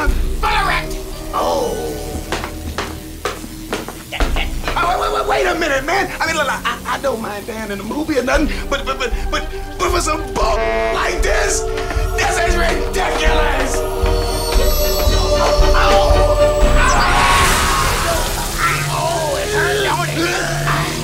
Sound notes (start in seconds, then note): 16.5 screams; 16.9 hand sizzling